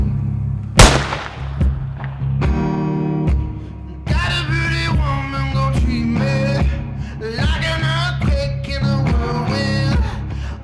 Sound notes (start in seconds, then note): 0.8 gunshot